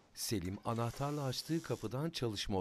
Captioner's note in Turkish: Kapı gıcırtısı sesi